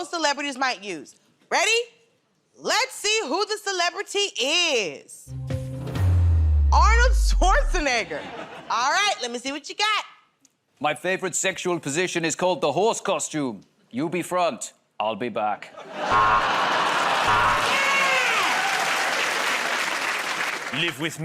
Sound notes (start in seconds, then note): 17.2 buzzer; 19.7 cheers and applause